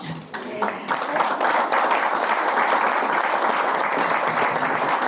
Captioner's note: audience applause